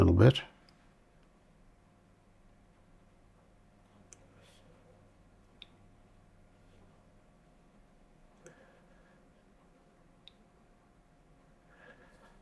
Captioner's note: silence